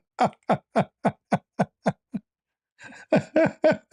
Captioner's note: ketawa